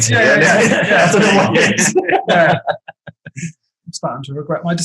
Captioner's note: group laughing